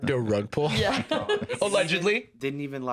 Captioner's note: laughs